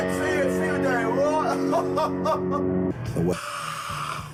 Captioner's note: laughs